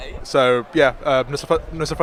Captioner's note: in foreign language